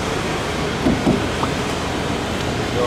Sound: knocking for no reason

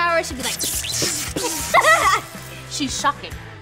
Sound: laughing

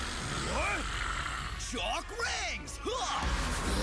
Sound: grunting

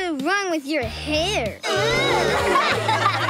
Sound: laughing

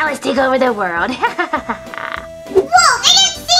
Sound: evil laughing

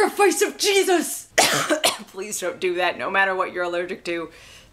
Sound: coughs

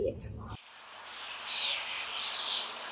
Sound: birds chirping

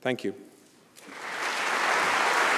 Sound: applause

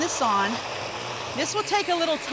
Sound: blender whirring

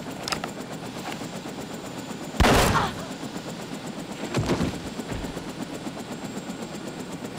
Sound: groaning; gun blasting

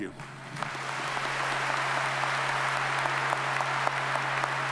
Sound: audience applauds

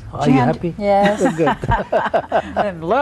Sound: all laugh

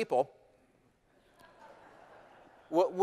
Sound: laughter

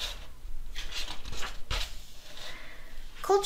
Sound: page flips

